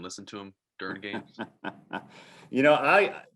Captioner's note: laughing